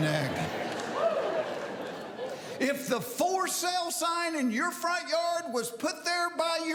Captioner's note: laughter